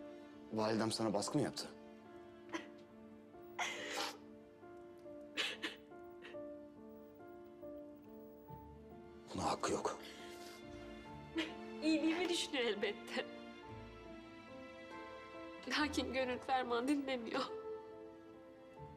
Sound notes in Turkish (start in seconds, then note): 3.6 Ağlama sesi